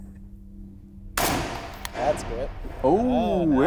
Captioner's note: gun fires